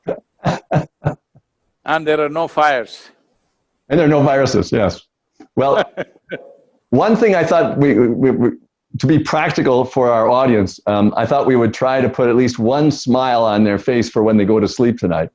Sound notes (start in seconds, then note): 5.5 Sadhguru laughs